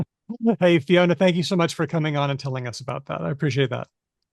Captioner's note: laughs